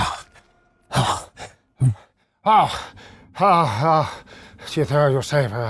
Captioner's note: imitates grunting